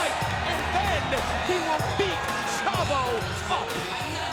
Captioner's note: spectators cheering; upbeat music